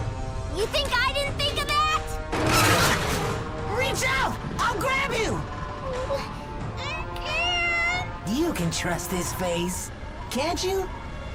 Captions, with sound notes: You think I didn't think of that? Reach out! I'll grab you! (WHIMPERING) I can't! You can trust this face, can't you?